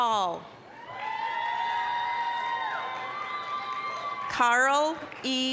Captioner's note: applause, cheering